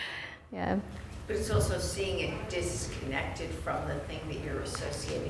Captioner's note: voiceover